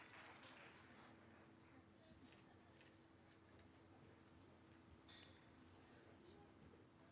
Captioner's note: cheering